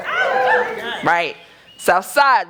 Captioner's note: cheering